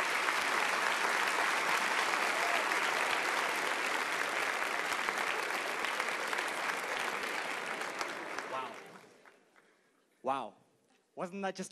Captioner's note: applause